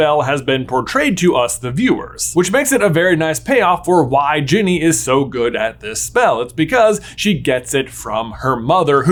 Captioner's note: none